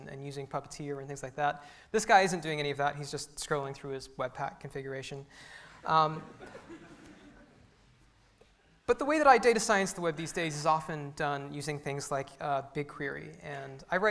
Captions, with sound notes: and using po-co-tee and things like that. This guy isn't doing any of that. He's just scrolling through his WebPack configuration. (audience chuckles) But the way that I data science the web these days is often done using things like bigQuery.